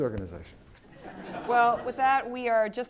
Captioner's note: laugh